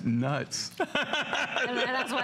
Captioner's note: laughter